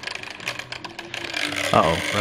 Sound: propellor clicking

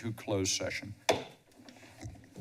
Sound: bangs gavel

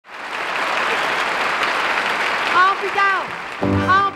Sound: audience clapping

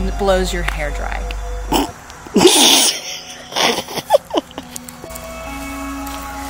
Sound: snickers; eerie music

